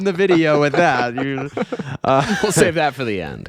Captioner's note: laughing